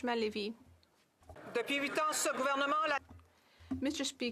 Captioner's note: speaking French